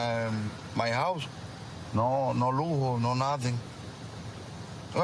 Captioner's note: speaking spanish